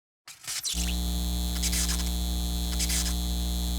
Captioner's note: electronic buzzing